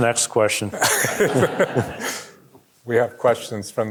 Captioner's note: audience chuckling